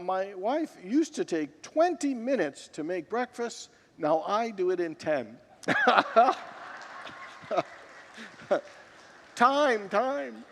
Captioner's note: laughs with congregants